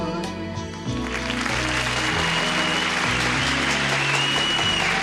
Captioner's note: crowd applauds